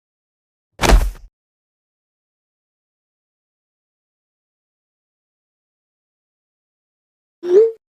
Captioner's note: slamming his fist on the table, causing glasses to rattle